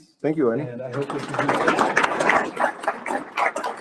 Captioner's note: audience applauding